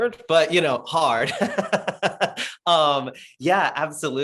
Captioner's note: laughing